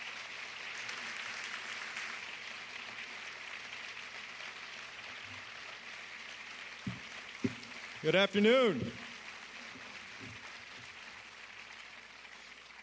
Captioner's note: applause